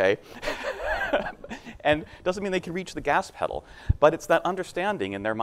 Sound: laughs

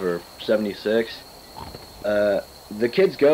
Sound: chomp

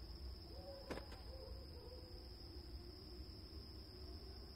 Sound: suspicious thud

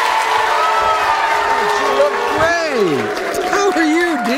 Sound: audience applauding; cheering; booing

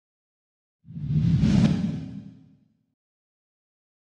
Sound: logo whooshes

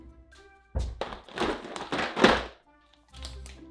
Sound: plastic clashing; paper rustling

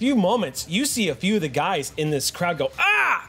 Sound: cries out

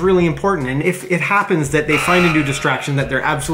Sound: buzzer sounds

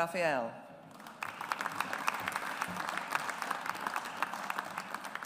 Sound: audience applauds

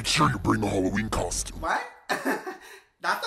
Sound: laughs

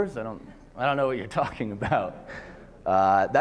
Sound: laughter

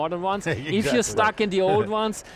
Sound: all laughing

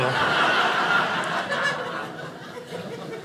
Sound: audience laughing

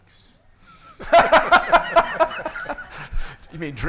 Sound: everyone laughing

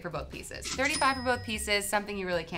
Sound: till rings

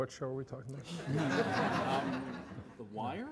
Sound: all laughing

